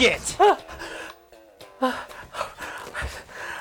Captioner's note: gasps